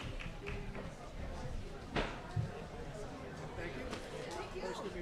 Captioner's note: people chattering